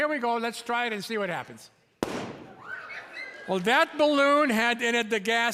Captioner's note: balloon pops; audience screeches in surprise